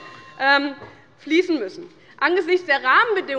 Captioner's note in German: Unruhe - Glockenzeichen des Präsidenten